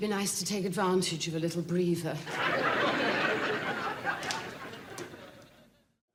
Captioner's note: audience laughing